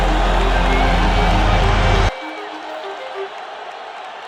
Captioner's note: applause